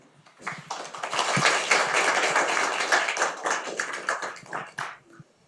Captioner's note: audience applauding